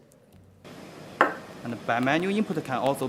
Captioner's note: knocking